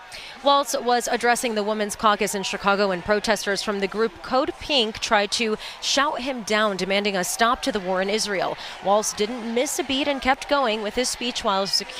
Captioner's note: shouting